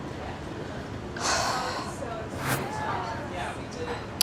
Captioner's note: sighs